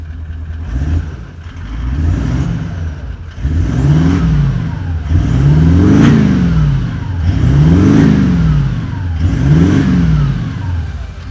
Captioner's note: engine revving